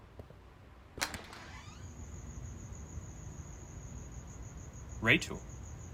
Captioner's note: footsteps tapping; door clicks and creaks